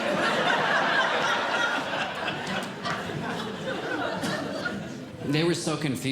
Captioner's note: audience Laughing